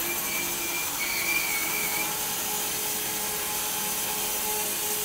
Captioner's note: machine sawing